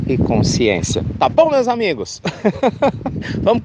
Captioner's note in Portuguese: risos